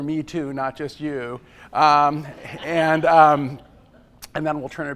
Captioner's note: laughter